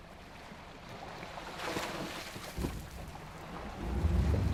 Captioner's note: water rushing; deer splashing; boat engine whirring